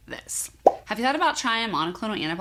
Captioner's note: bubble popping